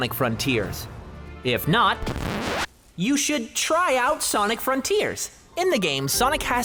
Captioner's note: record scratch